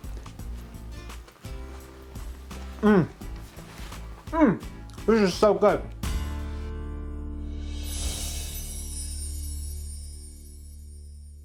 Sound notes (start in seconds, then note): 0.2 light music continues; 7.8 chimes ringing